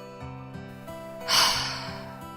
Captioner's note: sigh